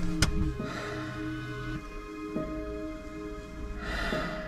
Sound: breathing deeply

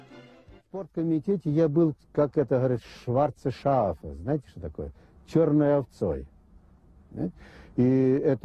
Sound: speaks German

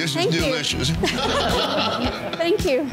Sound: laughing

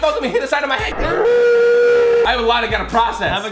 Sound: slow motion screaming

